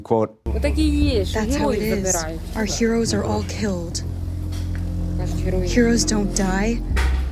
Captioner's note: through translator